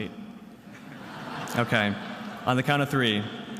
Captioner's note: attendees laughing